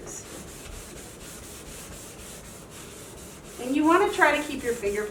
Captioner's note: sock rubbing